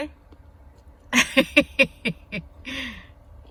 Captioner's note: chuckles